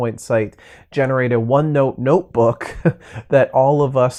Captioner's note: chuckles